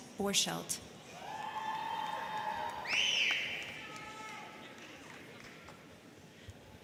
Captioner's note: crowd cheering; crowd clapping